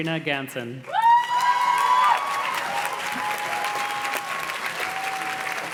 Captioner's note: audience cheers and claps